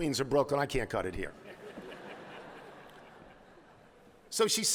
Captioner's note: laughter